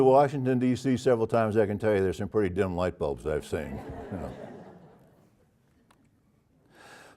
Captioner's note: laugh